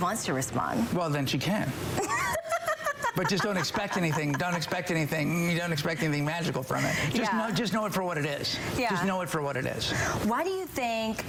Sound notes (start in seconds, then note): 3.7 laughter